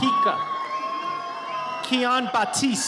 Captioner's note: audience cheers